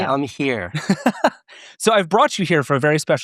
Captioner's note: laughing